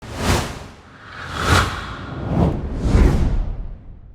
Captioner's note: text whooshing